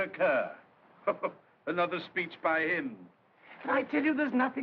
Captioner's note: chuckling